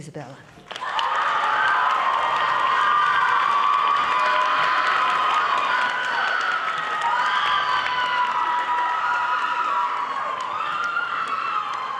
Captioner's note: applause